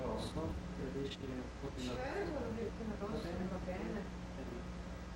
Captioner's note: couple speaking in Italian